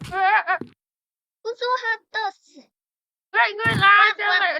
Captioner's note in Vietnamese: Tiếng Pháp